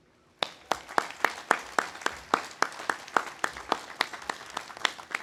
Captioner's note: audience applauding